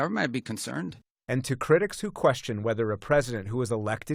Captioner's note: voice-over